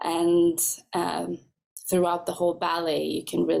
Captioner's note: none